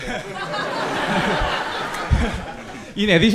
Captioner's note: everyone laughing